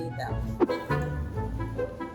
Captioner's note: whoosh; whimsical music